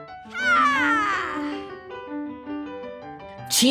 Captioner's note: Makoto shouting